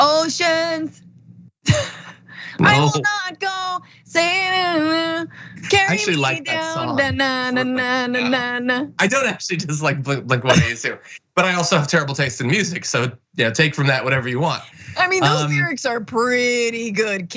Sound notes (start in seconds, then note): 2.5 laugh